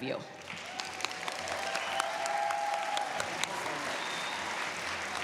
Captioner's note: cheers, applause